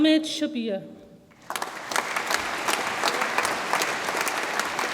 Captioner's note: audience applauds